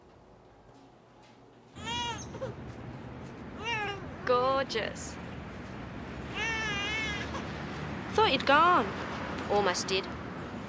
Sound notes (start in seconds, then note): 1.8 baby cries